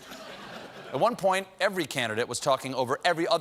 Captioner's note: laughter